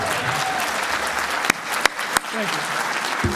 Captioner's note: applause